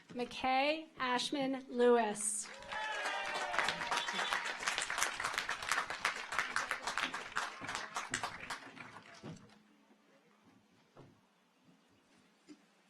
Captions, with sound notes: McKay Ashman Lewis. (audience applauds) (car horns honking)